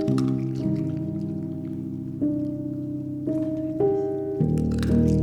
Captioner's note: crunch